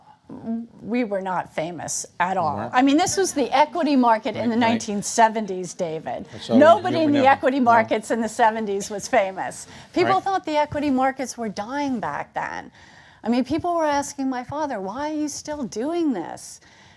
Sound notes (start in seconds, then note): 6.4 laugh